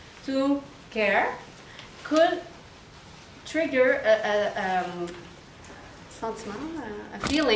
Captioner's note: speaks in foreign language